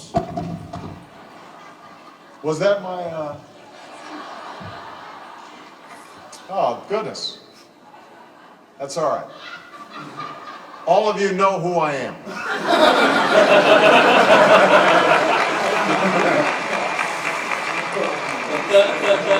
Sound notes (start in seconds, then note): 0.5 laugh; 12.2 laugh; 13.4 applause